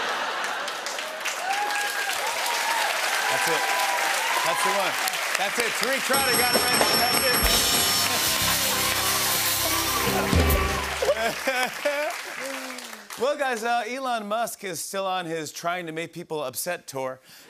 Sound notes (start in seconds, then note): 0.1 cheers and applause; 6.1 dinging; 7.8 cheers and applause